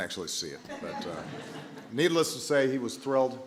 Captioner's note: laughter